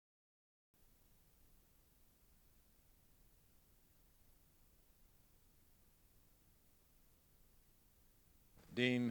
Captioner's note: silence